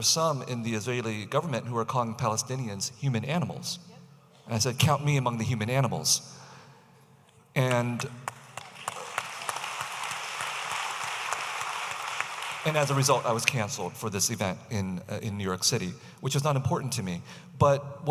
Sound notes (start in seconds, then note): 8.2 audience applauding